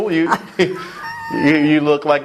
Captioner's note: laugh